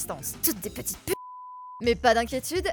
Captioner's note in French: biiiiiiiiiip